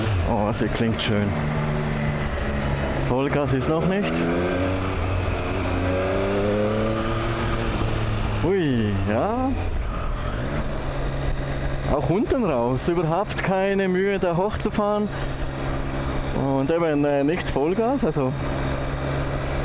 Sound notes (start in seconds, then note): 12.9 RPMs